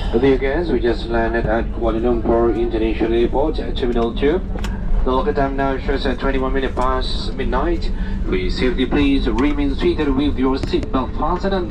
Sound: flight Announcement

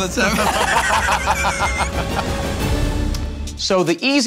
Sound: Joe and Q laugh

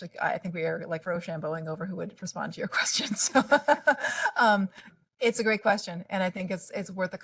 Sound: laughing

